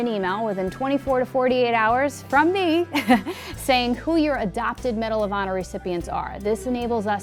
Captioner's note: chuckles